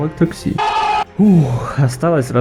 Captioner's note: exhale